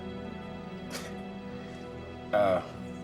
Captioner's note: chuckles